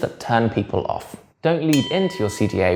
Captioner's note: bell dings